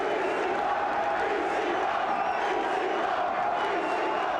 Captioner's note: crowd chants "ECW"